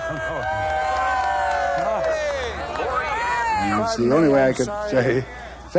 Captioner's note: cheering